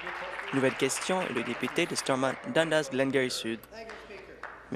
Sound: applause

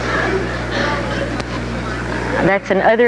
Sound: indistinct audience chatter

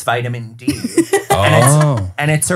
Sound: laughing

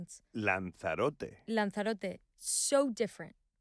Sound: José and Inés speaking Spanish

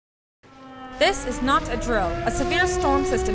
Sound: siren

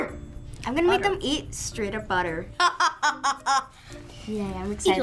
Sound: laughs

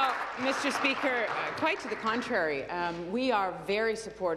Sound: applause

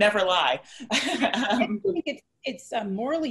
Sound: laughs

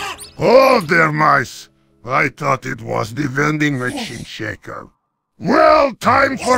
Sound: TF2 Heavy Voice

